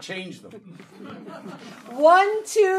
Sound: audience laughing

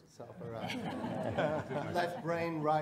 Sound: audience laughing

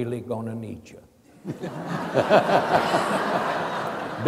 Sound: laughing

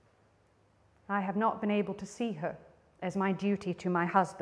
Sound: none

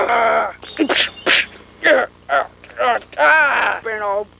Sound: more extremely realistic fighting sounds

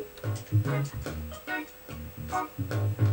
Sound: laidback reggae music; console buttons click

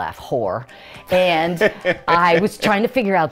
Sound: laughs

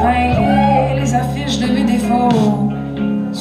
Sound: audience hoots

